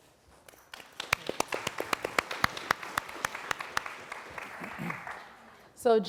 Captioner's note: applause